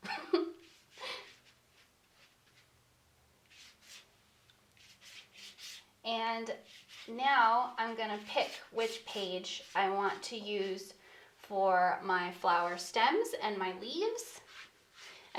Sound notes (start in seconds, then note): 0.0 chuckles; 3.6 paintbrush scratching